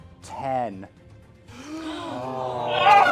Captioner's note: gasps